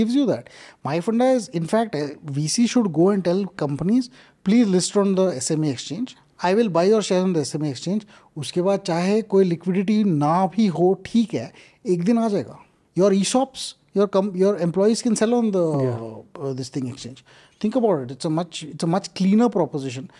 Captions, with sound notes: And SME gives you that my thing is that in fact a VC should go and tell companies please list on the SME exchange, I will buy your shares on SME exchange after that if there is no liquidity then also it's fine it will come one day(Speaks in Hindi), your ESOP's your company your employees can sell on the this thing exchange. Think about it. It's a much cleaner proposition.